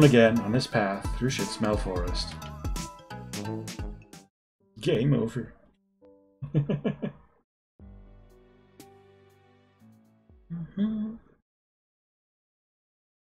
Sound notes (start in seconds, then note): 6.4 chuckles; 10.4 hums along